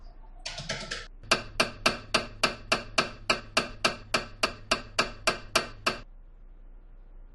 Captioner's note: MRI noises